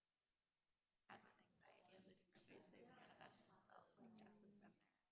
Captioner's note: bright conversational chatter